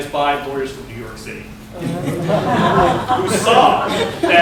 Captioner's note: laughter